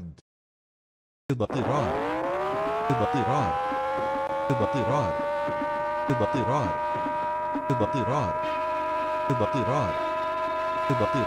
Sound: siren

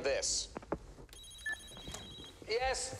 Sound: phone ringing

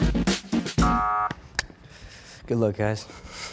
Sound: buzzer rings

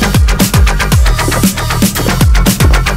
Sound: gulp, gulp, gulp

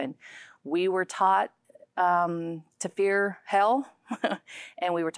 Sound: chuckling

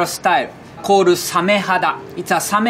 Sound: text chiming

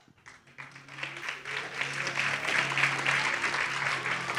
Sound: audience applauding

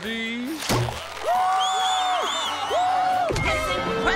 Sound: cheering

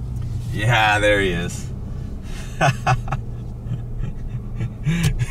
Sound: laughs

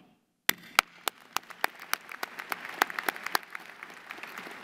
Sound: applause

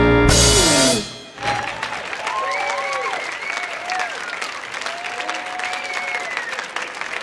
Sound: audience cheers; audience applauds

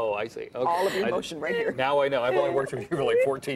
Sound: laughter

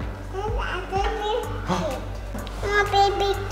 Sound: baby talk

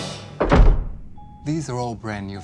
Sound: door slams

